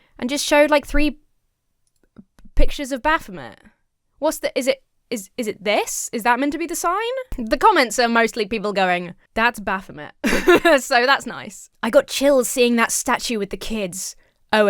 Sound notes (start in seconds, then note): 10.2 laughs